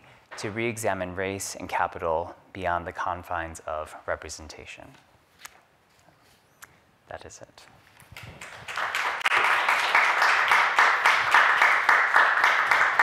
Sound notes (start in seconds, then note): 8.1 applause